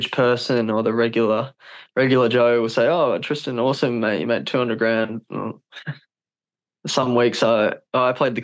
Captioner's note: laughs